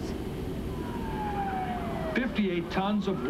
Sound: siren

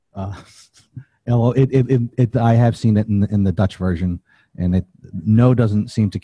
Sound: chuckles

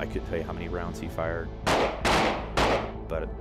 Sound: gunshots

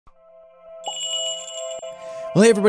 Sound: magical jingle

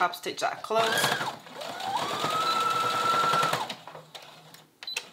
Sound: sewing machine whirring

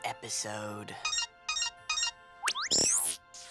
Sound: beeping

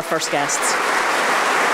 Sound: applause

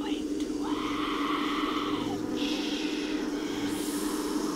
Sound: buzzing

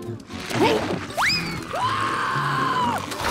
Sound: screaming

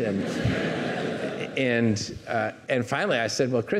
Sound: audience laughing

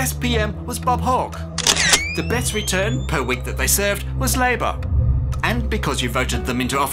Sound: camera shutter clicks

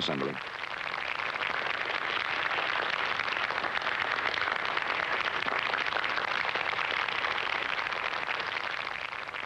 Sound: applause

